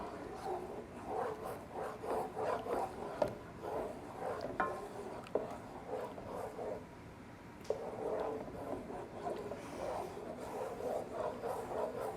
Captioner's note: spoon stirring in pan